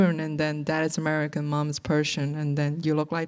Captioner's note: none